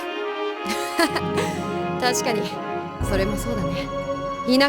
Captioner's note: laugh